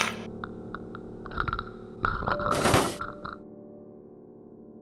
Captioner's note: death rattle